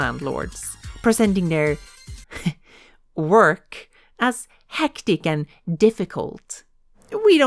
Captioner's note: heh